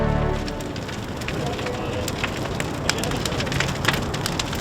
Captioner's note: fire cracking